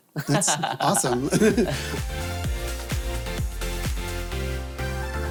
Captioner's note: laughs; upbeat music